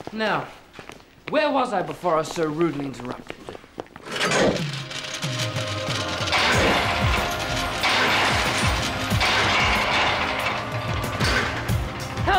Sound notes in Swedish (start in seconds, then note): 4.3 maskineriet klirrar; 6.1 portarna slår igen